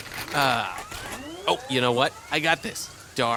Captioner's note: sound of guards charging blasters